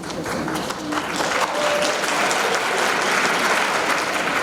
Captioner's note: audience clapping